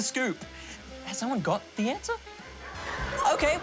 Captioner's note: laughter